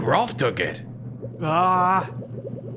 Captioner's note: annoyed grunt